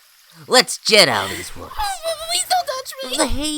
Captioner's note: gasps